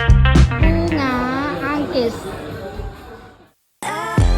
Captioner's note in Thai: ภาษาอินโดนีเซีย